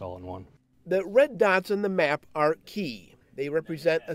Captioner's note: voiceover